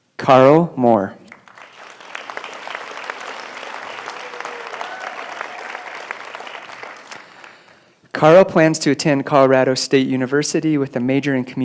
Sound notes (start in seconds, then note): 4.0 applause